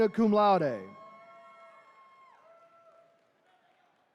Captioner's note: attendees cheering